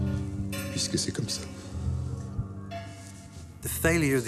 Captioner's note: Louis XVI speaking in French